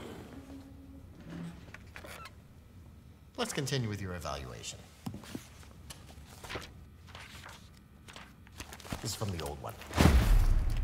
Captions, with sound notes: [chair squeaks] Let's continue with your evaluation. This is from the old one.